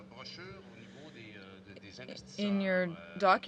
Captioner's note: speaking in french